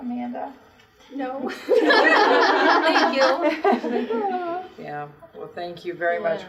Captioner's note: laughter